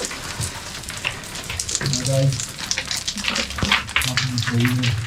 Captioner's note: rocks falling; indistinct conversation